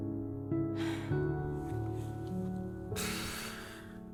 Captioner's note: sighs